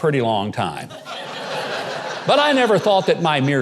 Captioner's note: audience laughing